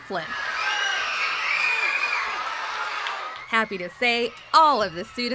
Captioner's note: cheers and applause